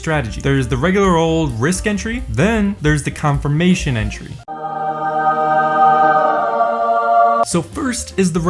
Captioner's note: angel sounds